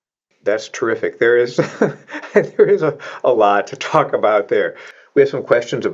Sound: laughs

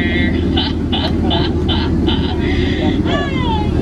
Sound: chuckling

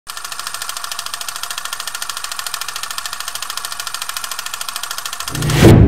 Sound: wii flashback noises

